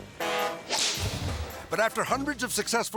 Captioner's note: boat horn blowing